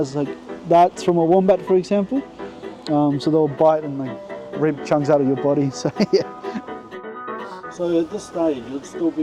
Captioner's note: chuckle